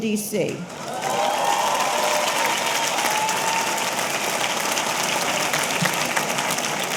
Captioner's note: audience applauding; audience cheering